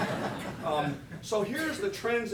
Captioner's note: laughter